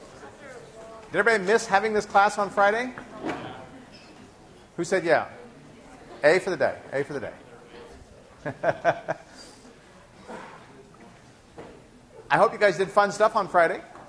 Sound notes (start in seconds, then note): 8.5 laughs